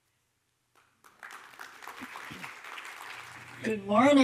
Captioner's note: audience applauding